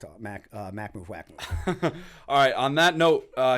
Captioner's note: chuckle